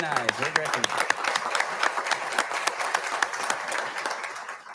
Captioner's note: audience applauding